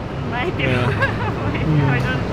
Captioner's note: laughing